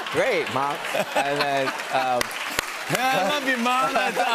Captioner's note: cheers and applause